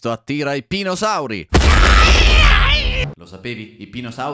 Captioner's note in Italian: urla caratteristiche di pinosauro